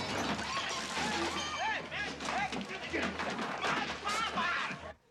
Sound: men shouting/ women screaming/ scuffling noises

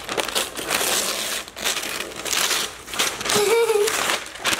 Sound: paper tearing; giggles

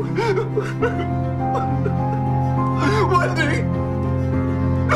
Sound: sobbing

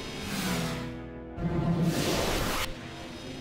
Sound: suction noises

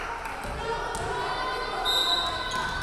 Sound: players chanting; referee whistling

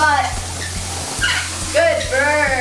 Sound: Cody chirps

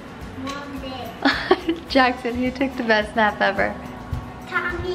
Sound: laughs

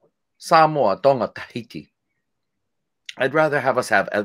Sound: speaking foreign language

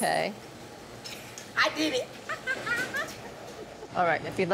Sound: laughs

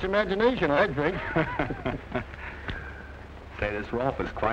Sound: chuckling

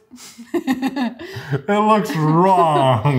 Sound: laughing; laughs

